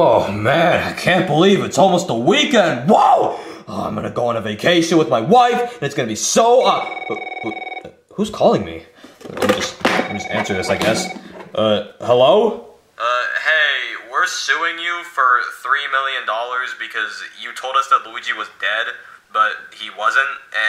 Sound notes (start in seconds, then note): 6.6 phone ringing